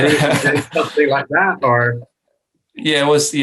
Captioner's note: laughs